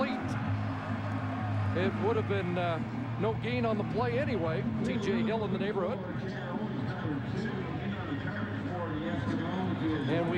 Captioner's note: cheers and applause